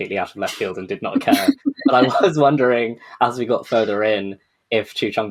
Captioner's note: laughing